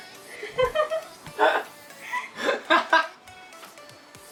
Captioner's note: laughs